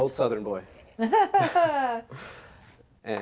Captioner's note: chuckles